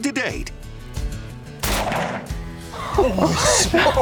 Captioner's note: gunshot